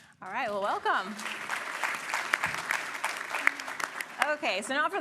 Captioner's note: applause